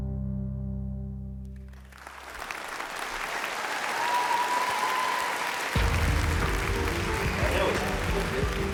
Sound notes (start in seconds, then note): 1.8 cheering and applause